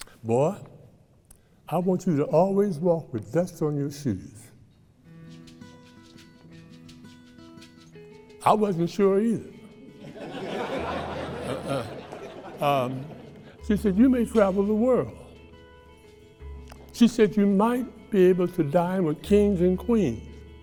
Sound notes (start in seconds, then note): 5.8 gentle lively music; 10.0 audience laughing